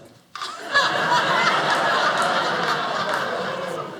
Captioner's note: audience laughing